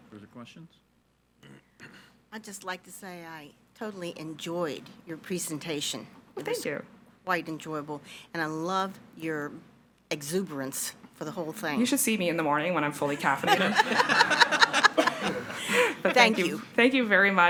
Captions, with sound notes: - Further questions? - I'd just like to say I totally enjoyed your presentation. - Well thank you. - Quite enjoyable. And I love your exuberance for the whole thing. - You should see me in the morning when I'm fully caffeinated. (all laughing) - Thank you. - Thank you very much.